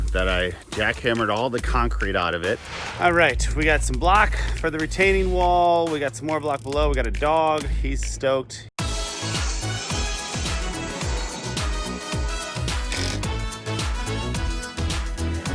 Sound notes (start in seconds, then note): 8.8 saw whirs; 12.8 drill clicks